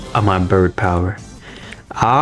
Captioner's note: inhales Oxygen